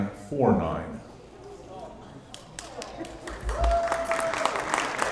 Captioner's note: applause